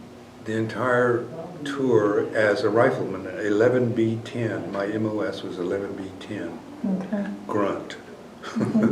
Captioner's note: laughs